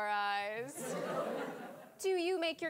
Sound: audience laughing

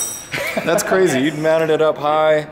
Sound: laughs

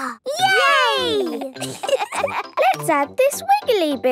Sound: laughter

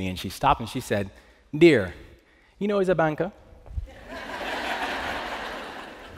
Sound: Jamaican accent; laughter

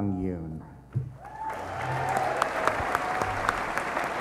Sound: applause

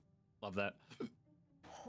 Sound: hiccups

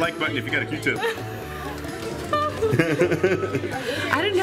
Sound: laughing

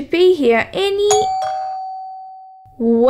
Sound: doorbell

